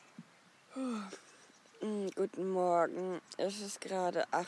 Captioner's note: yawns